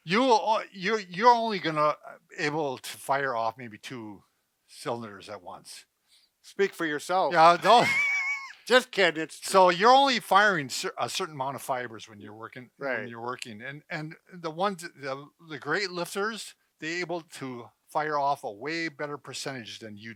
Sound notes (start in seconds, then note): 7.4 both laughing